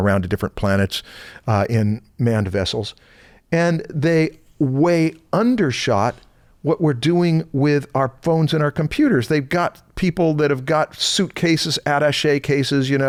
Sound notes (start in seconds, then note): none